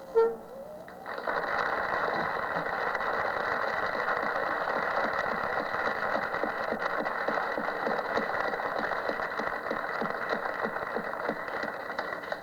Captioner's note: applause